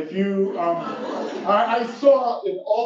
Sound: laugh

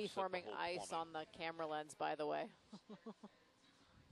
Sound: laughs

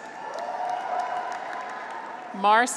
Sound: graduates cheer

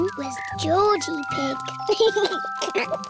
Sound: giggles

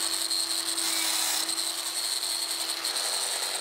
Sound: whirring machine noises

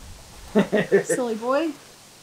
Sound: laughs

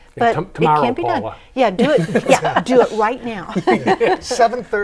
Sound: laughing

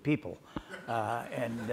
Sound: audience laughs

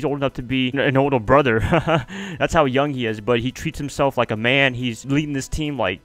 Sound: laugh

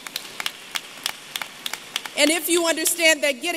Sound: applause

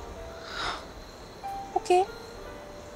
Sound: exhales

